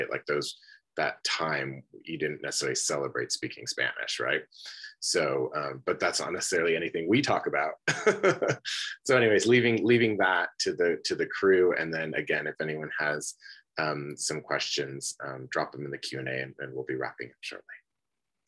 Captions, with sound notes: Like those that time you didn't necessarily celebrate speaking Spanish, right? So, but that's necessarily anything we talk about. (laughs) So anyways, leaving that to the crew and then again, if anyone has some questions, drop them in the Q&A, and then we'll be wrapping up shortly.